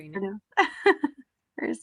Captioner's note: laughs